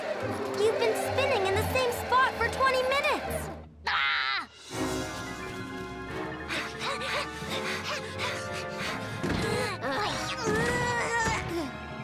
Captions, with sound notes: - You've been spinning in the same spot for 20 minutes. (Milo yelps) (both panting) (Milo grunting)